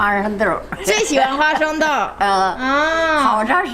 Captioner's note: speaking Chinese; grandma speaking Chinese